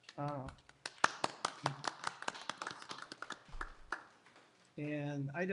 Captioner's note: applause